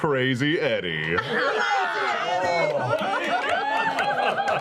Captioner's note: laughter